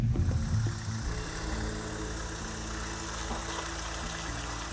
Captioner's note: truck motors whirring